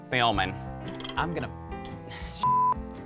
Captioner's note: beep